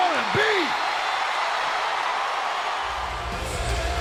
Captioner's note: crowd roars